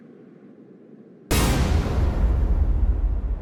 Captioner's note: hit